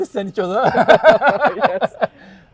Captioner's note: laughing